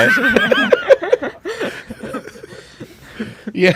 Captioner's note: laughs